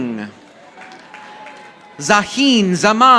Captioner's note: audience applauding